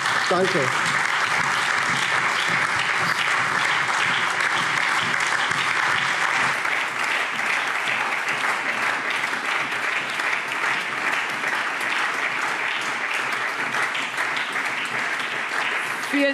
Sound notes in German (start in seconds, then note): 1.7 Allgemeiner lebhafter Beifall